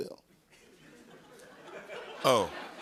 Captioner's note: laughter